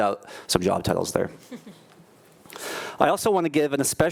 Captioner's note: laughing